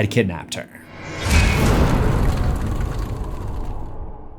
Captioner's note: impact